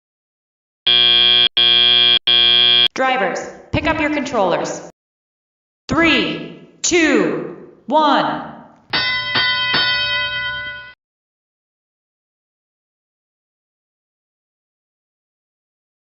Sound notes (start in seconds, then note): 0.8 end of Autonomous period, buzzer sounds 3 times; 8.9 start of Driver-Controlled period, fire bell sounds 3 times